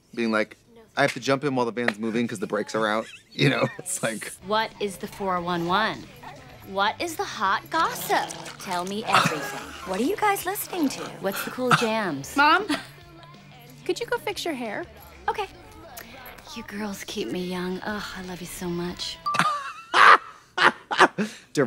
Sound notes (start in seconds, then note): 9.3 Katya wheezes; 19.3 blonde women cackle